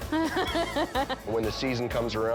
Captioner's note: laughing